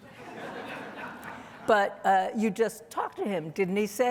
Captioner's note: audience laughing